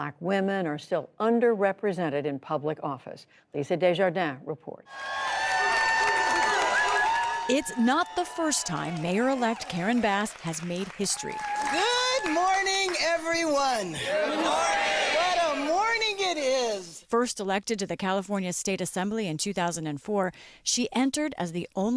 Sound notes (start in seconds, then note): 8.6 applause